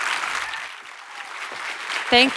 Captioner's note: audience applauds